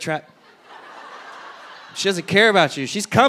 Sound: audience laughing

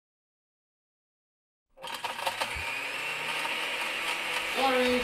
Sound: A Blender Starts Running

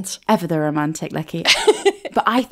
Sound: laughing

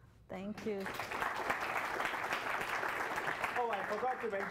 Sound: applause

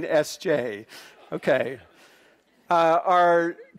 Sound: laughing

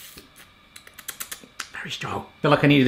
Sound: tongue clicking

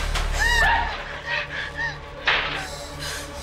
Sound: screams; panting

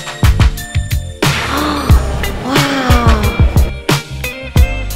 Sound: gasps

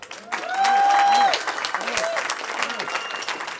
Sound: cheering

